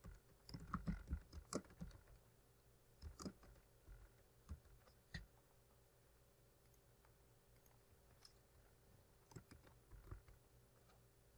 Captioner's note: typing